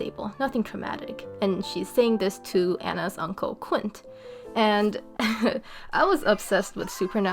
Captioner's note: laughing